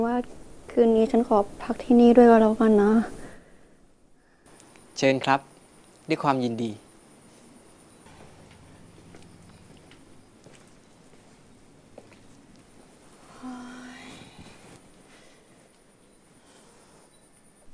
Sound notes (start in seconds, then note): 13.2 sighs